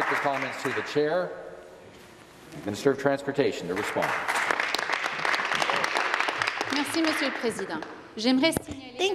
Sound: some Applause

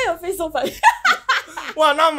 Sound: laughs

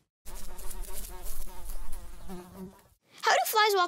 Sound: fly buzzing

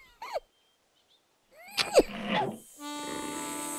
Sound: grunting

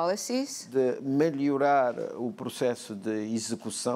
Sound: speaking portuguese

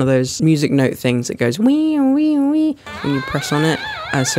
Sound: imitates toy

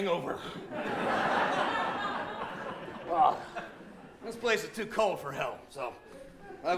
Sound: laughter

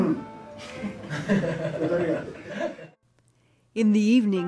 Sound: boys laughing

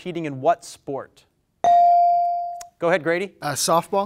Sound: bell dings

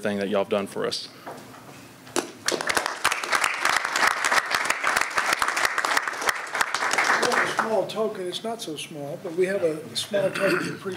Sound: applause

